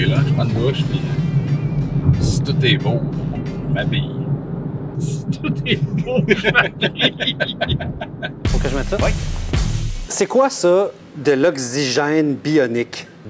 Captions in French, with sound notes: Je prends une douche, puis si tout est beau, je m'habille. - (en riant) : « Si tout est beau, je m'habille. » Il faut que je mette ça? - Oui. - C'est quoi, ça, de l'oxygène bionique?